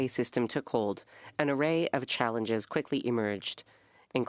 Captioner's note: speaking French